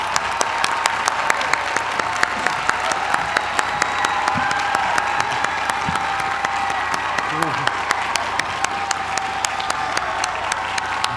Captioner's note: applause